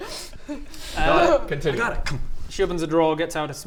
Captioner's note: thunk